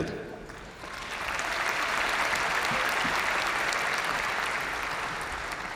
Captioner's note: crowd applauding; crowd cheering